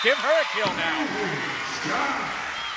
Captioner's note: cheering